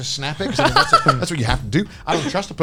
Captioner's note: laughs